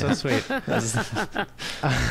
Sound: laughs

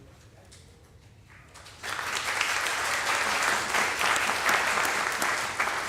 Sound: audience applauding

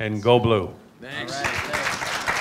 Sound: applause

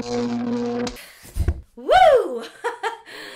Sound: thud

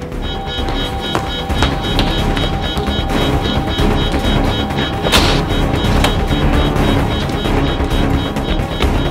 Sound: alarm sounds

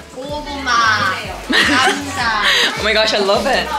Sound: hahahaha

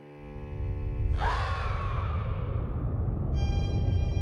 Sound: monstrous screech

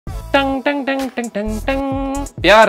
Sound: humming a song

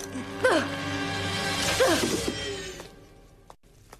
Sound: grunting

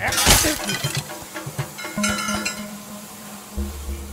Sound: glass shatters

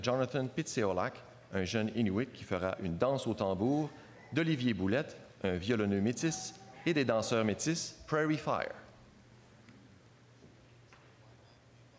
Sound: speaking French

